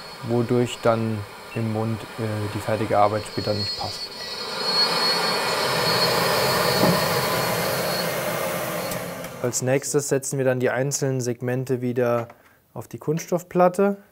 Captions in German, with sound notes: wodurch dann im Mund die fertige Arbeit später nicht passt. (Laute Schleifgeräusche) Als Nächstes setzen wir dann die einzelnen Segmente wieder auf die Kunststoffplatte.